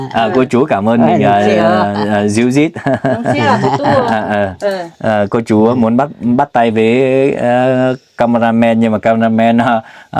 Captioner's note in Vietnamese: tiếng cười